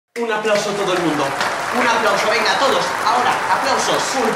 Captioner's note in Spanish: Aplausos